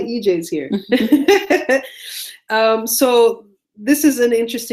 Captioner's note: laughing